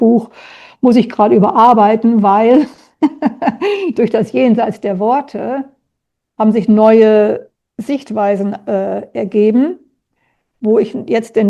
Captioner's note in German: gelächter